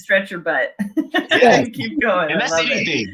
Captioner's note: laughing